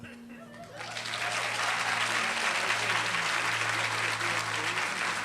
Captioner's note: applause